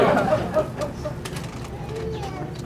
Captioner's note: laughter